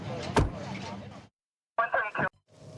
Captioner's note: car door closing